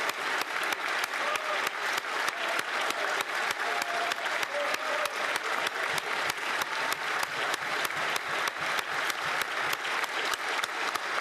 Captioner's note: applause